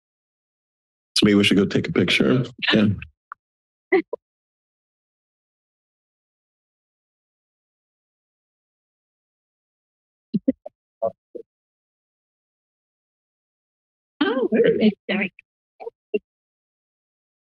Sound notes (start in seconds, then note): 4.5 silence; 10.7 background chatter; 11.7 silence